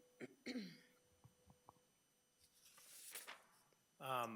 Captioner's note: clears throat